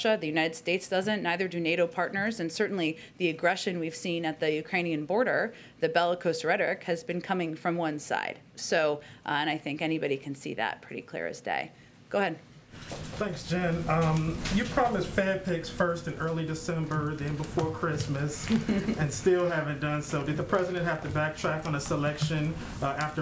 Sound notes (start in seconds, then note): 18.4 laughs